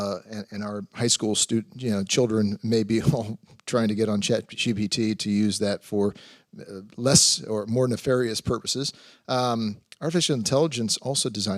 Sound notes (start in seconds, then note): none